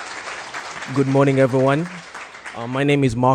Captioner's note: crowd applauds